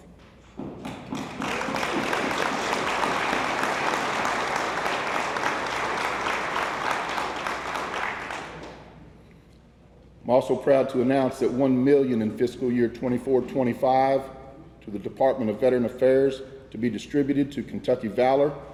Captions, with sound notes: (attendees applauding) (attendees cheering) I'm also proud to announce that 1 million in fiscal year '24 and '25 to the Department of Veteran Affairs, to be distributed to Kentucky Valor,